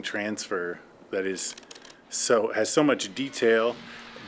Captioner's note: equipment clicking